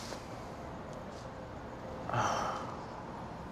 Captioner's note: sigh